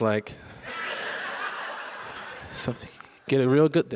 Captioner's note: audience laughs